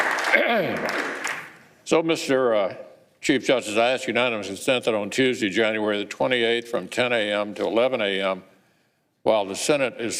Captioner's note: applause